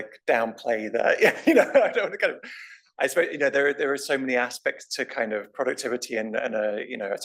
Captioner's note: laugh